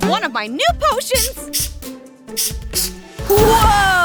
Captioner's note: potion spraying